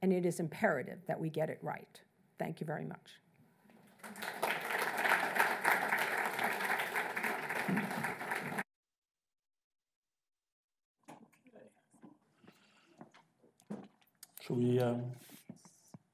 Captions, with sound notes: and it is imperative that we get it right. Thank you very much. (audience applauds) - Okay. Shall we?